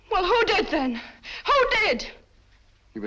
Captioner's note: none